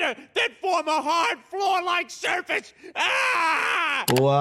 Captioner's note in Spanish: grita